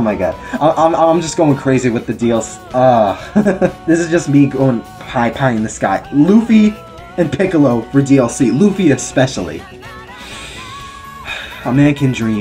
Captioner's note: sigh